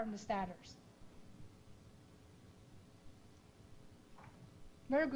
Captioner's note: pause